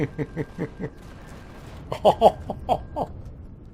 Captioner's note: laughs; turrets firing